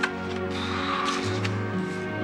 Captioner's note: exhales